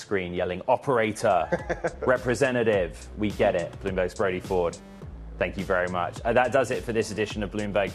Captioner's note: laughter